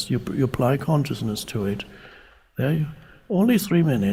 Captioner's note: none